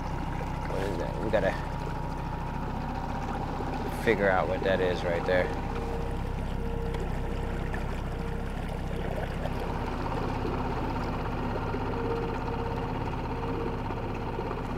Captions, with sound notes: What is that? We got to figure out what that is right there. (boat engine purring) (tense music)